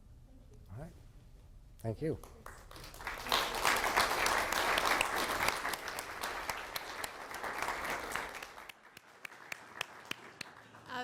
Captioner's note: applause from audience